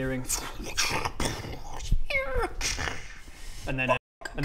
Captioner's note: tschuuun...bsssch...eeeeee...cxsskhshhh